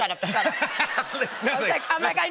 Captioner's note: laughter